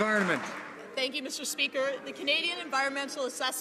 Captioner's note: some Applause